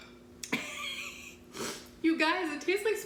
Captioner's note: laughing